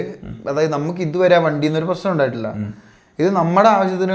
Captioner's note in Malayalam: തൊണ്ട ശരിയാക്കുന്നു